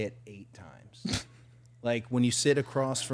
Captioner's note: participant laughing